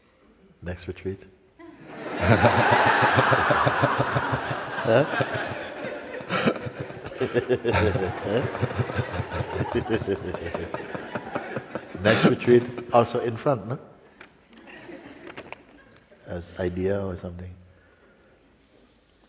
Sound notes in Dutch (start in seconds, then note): 3.4 gelach